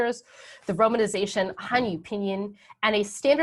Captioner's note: speaking in a foreign language